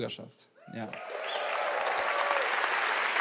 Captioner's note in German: Applaus, Jubel